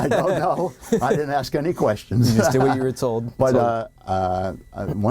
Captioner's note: laughing